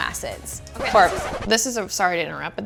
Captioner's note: record scratching